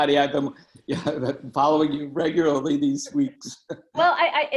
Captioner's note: laughing